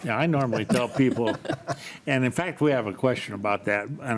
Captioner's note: laughs